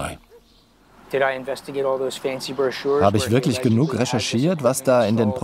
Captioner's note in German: englisch